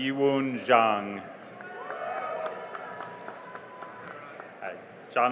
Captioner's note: cheering and applause